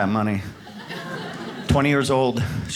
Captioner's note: audience laughs